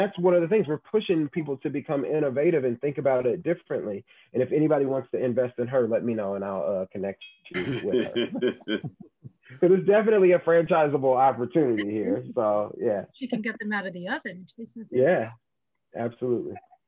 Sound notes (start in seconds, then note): 7.5 laugh